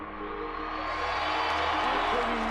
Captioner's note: cheering